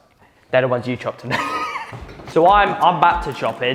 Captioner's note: laughs